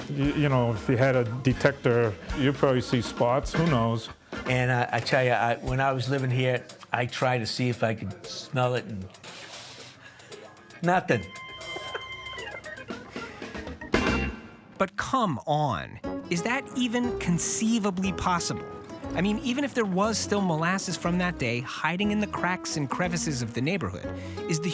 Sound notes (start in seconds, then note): 9.2 sniffing; 11.7 laughing